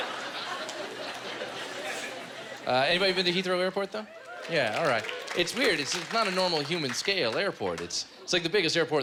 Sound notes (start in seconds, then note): 4.2 cheers and applause